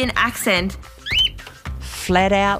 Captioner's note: chirping